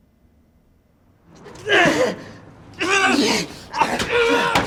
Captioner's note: men grunting